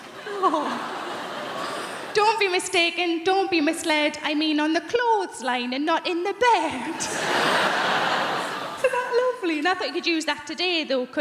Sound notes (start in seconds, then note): 6.8 crowd laughing; 7.0 woman laughs